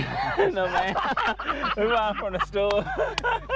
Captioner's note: laughs